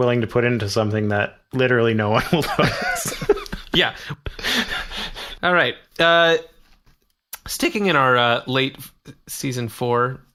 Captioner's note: laughs